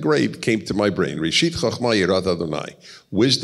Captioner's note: speaks Hebrew